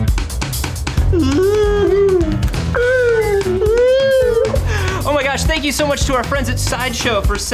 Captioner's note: R2 whistle